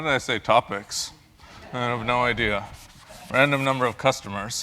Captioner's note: laugh